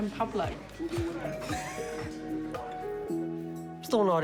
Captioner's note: chuckles